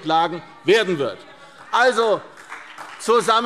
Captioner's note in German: Beifall CDU und BÜNDNIS 90/DIE GRÜNEN